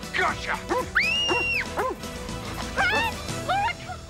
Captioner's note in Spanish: perro ladrando; Nora grita